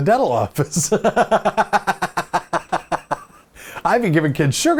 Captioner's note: laughs